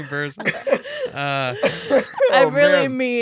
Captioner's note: laughing